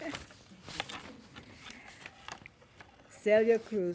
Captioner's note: laughing